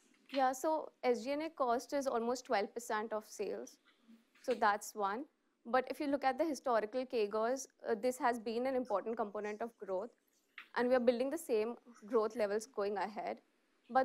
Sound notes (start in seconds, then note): none